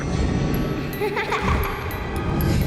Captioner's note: laughing